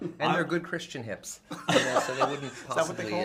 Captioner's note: laughter